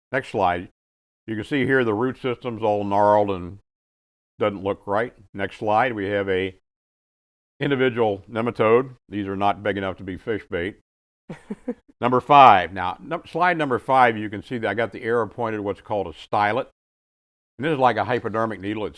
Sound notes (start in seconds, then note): 11.3 chuckles